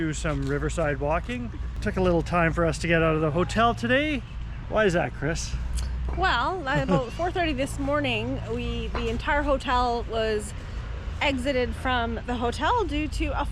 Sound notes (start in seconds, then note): 6.6 laughs